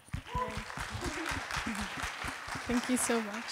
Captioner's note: audience applauding